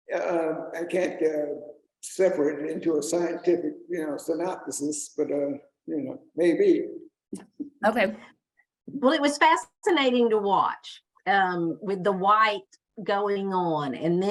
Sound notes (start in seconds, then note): 7.2 chuckles